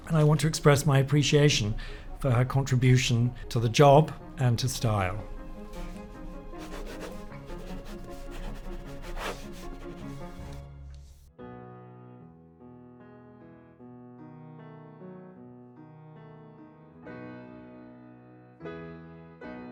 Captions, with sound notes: And I want to express my appreciation for her contribution to the job and to style. [pen scratching] [soft piano music]